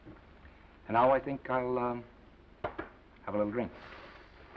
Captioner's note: hand patting